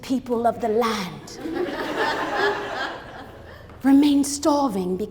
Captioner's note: crowd laughs